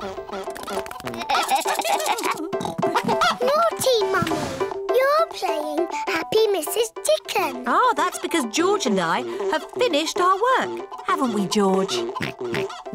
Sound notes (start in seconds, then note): 0.1 giggling; 11.1 oinks